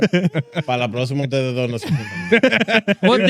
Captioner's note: laughing; speaking In Foreign Language